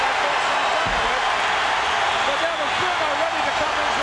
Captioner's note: audience cheering drowns out